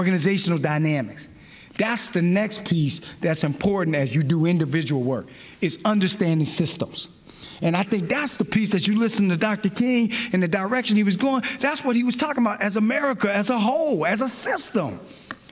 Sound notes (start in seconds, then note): none